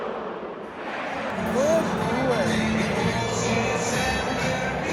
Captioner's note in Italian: Applauso